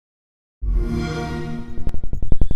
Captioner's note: xbox sound